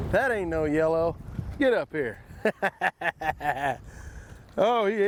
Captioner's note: laughs